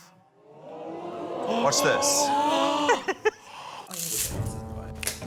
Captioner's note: audience exclaims; chuckles; tense music